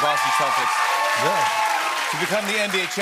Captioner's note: cheers and applause